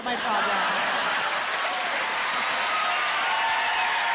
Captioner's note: applause